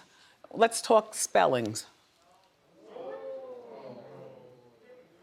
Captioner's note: audience reacts